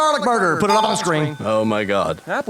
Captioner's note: ding!